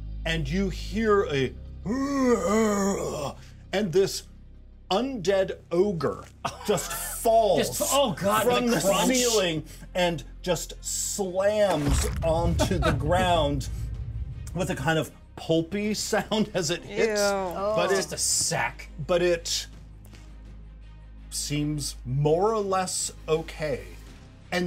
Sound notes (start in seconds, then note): 6.4 speaker laughs; 12.2 speaker laughs; 15.9 chuckles